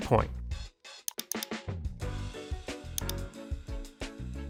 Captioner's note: mouse clicking